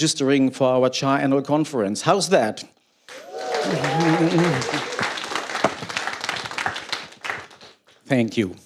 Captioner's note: cheers and applause